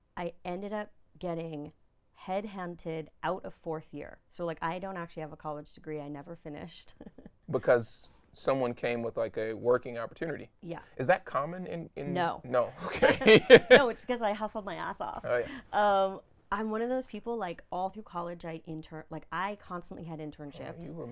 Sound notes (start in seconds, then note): 6.8 laughing; 12.8 laughing